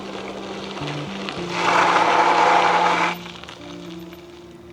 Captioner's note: tires skidding